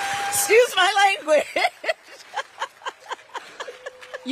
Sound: Kamala laughs; audience laughs and cheers; laughs

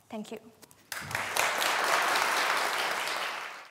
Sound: applause

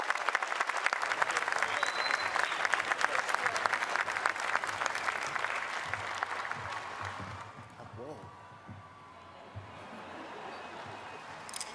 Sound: laughter

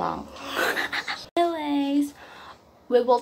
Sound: disgusting weird laugh

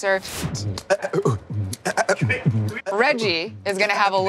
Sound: beatboxing

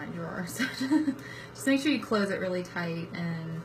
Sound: laughs

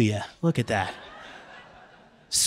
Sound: laughter

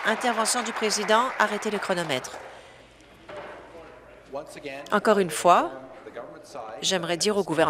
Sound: applause

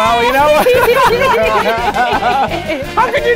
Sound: everyone laughing

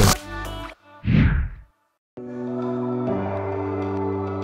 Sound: screen whooshes

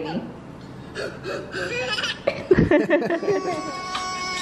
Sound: kid growls; baby laughs; family laughs; baby gurgles

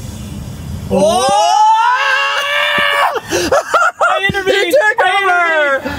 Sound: screaming

